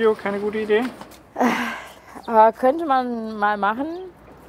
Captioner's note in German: seufzt